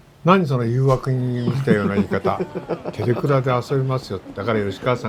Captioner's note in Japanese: 笑い